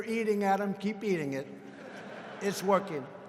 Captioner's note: laughter